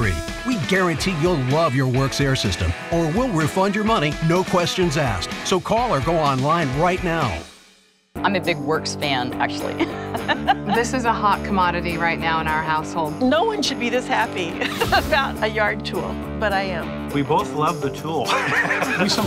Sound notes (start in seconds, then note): 9.8 laughs loudly; 18.2 laughs loudly